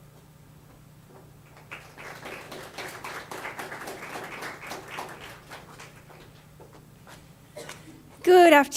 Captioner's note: audience applause